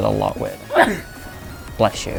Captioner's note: sneezing